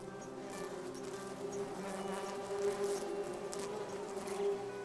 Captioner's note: bees buzzing